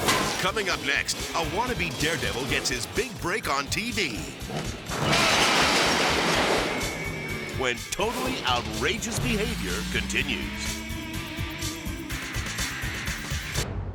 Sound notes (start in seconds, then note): 0.0 upbeat rock music; 4.9 shed shattering; 10.7 upbeat rock music continues